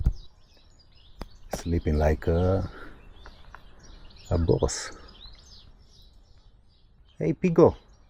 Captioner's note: birds chirping